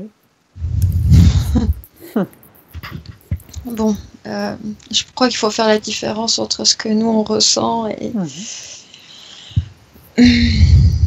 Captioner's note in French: rire